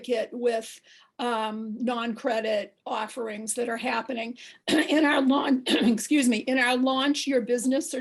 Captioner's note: cough